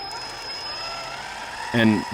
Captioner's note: engine roaring